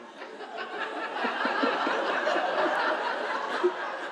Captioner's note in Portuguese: plateia continua a rir